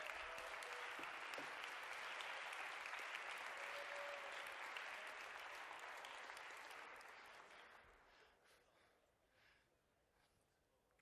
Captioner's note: applause